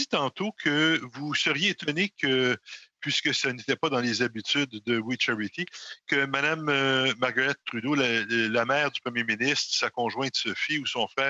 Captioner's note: speaking French